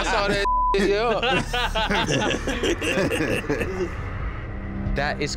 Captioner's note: laughter